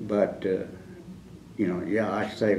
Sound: none

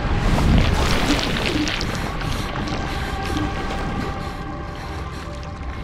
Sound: gasping

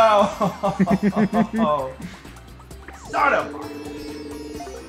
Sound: laugh

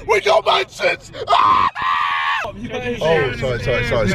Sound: screaming

